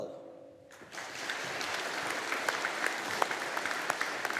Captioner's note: audience applauding